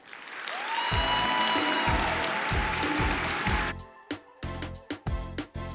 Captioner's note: applause